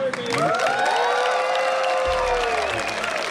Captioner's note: all whooping